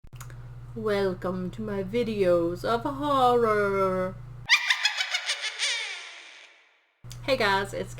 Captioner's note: witch laugh